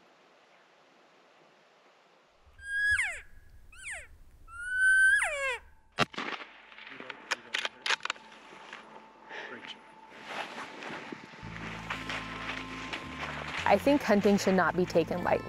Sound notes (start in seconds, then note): 2.2 gun shot